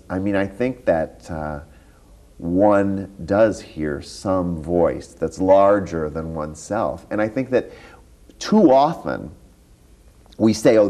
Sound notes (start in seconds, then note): none